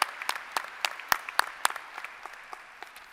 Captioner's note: applause